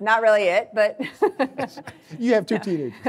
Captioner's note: laughing